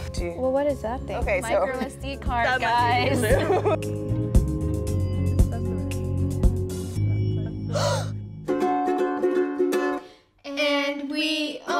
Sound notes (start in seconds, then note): 7.6 gasps; 8.4 playing Ukulele; 10.1 singing